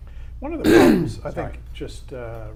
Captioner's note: clears throat loudly